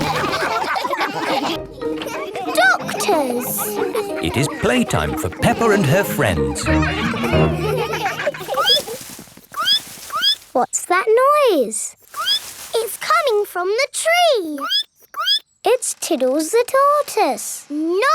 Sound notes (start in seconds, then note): 0.0 all laugh; 7.2 all laughing; 8.0 squeaking; 12.2 squeak; 15.2 squeaking